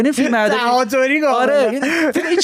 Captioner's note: laughs